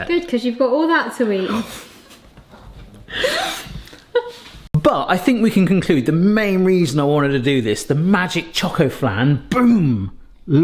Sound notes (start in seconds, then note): 3.1 both laughing